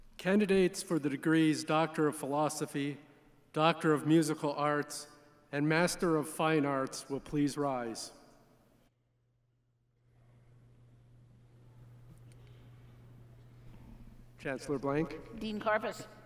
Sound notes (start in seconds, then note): none